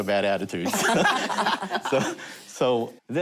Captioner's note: laughter